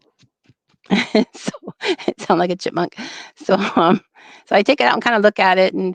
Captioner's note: laughter